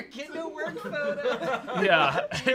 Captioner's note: off-camera laughing